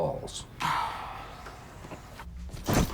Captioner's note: Lloyd Sighs